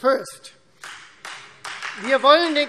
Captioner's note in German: Beifall Freie Demokraten